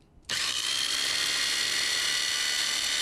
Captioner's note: grinding